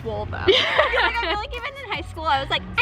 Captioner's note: laughs